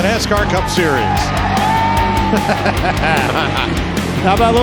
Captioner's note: crew celebrating